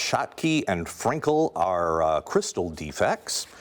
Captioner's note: none